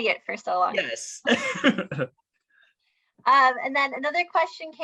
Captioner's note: chuckles